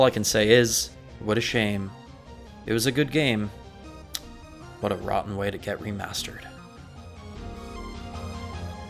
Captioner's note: lip smack